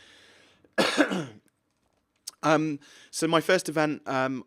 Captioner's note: coughs